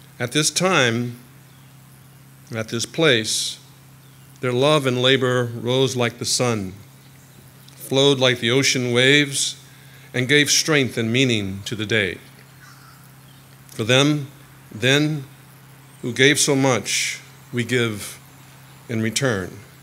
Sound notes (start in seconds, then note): none